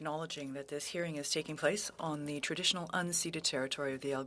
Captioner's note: speaking French